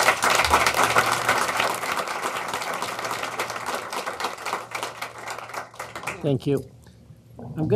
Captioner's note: applause